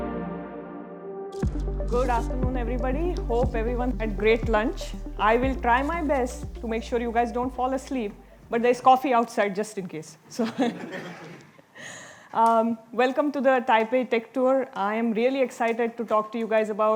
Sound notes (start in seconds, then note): 10.4 audience laughing